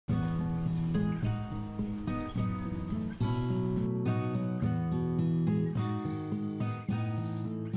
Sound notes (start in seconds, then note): 1.2 wind